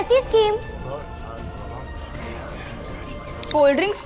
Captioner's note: people murmuring